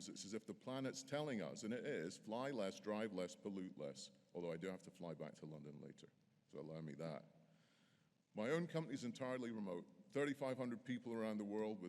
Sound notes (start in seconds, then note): none